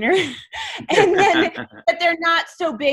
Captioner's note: laughter